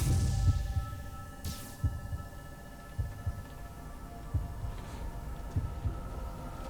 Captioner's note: heart beating